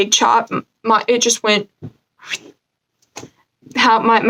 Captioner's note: woosh upward